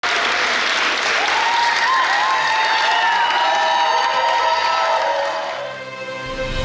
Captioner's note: cheering & Clapping; dramatic Music